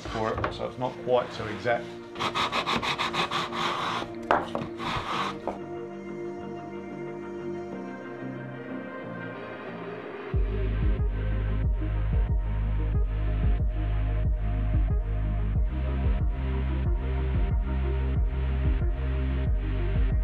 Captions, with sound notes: for it so it's not quite so exact. (wood block rubbing) (upbeat music)